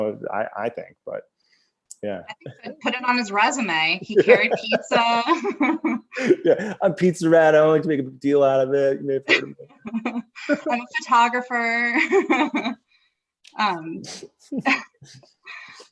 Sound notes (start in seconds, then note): 4.0 both laugh; 10.6 laughter; 14.5 laughs